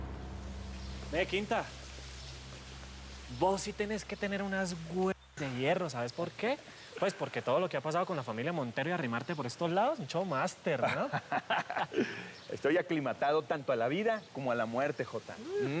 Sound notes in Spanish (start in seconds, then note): 10.8 risas